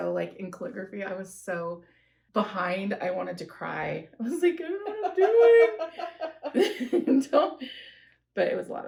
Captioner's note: laughter